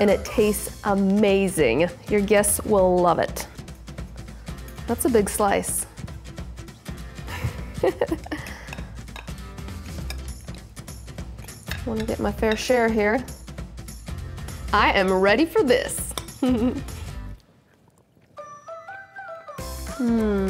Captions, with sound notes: And it tastes amazing, your guests will love it! That's a big slice. (laughs) I'm going to get my fair share here. I am ready for this! (giggles)